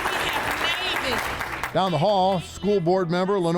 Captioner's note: audience applauding